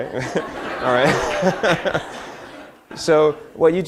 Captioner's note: laughter